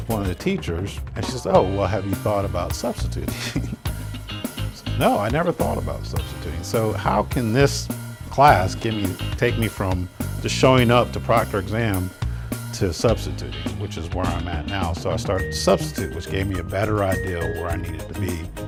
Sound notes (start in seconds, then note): 3.3 laughs